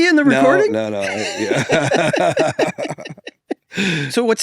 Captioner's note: pair laughs